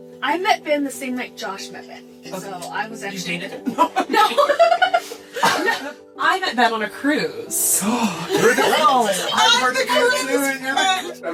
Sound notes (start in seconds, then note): 3.6 giggle; 5.2 cough; 7.8 gasp